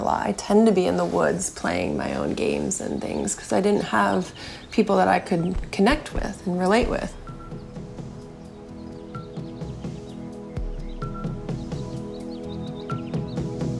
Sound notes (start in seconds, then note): 6.8 soft angelic music; 7.9 birds chirping